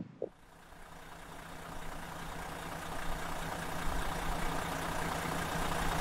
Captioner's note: large engine running softly